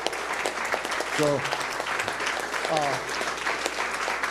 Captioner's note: applause